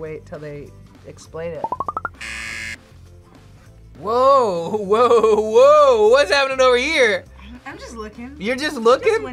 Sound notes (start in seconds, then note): 2.2 buzzer